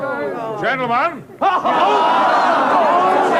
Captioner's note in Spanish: Gritos